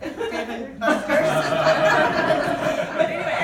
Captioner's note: audience laughing